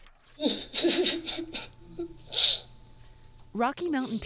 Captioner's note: sobbing